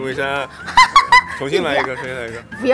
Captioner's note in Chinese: 高八度笑声